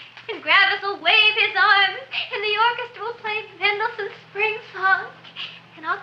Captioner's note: none